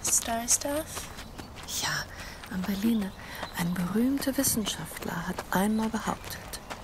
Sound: speaking foreign language

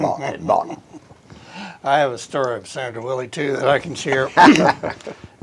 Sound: chuckles

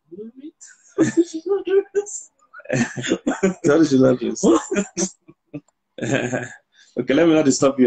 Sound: laughs

